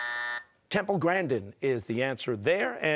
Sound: buzzer

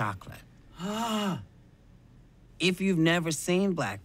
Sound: gasps

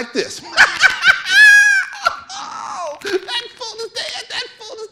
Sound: laughing

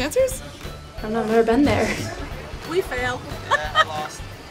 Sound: laughing

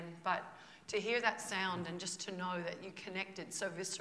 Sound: none

